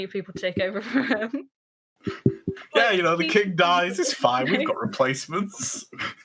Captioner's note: laughing